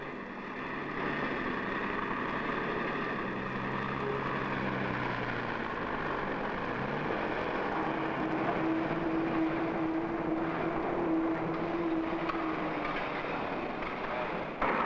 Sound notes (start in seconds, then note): none